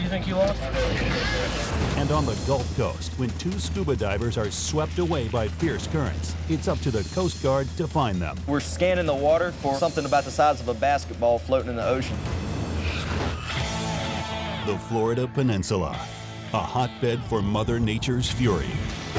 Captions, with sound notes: And on the Gulf Coast, when two scuba divers are swept away by fierce currents, it's up to the coast guard to find them. - We're scanning the water for something about the size of a basketball floating in the ocean. - [Voiceover] The Florida Peninsula, a hotbed for mother nature's fury.